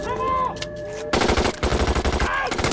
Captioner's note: gunshots blasting